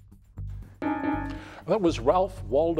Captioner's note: bell dings